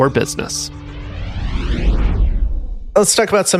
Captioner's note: air whooshing